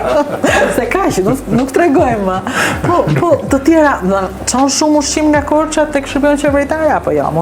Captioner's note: laughs